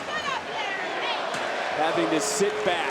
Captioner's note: crowd chattering